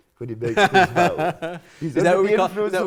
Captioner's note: laughing